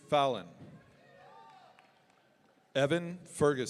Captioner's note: audience cheering